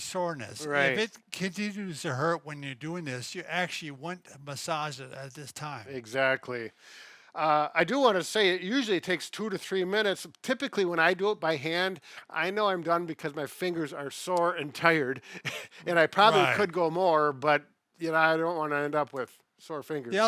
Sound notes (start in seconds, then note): 16.1 laughs